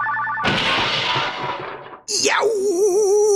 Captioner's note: crash!